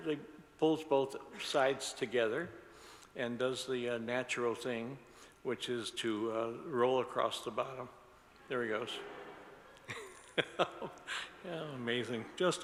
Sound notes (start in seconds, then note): 9.8 laughs; 9.9 audience laughs